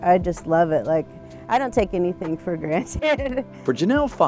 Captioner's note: laughing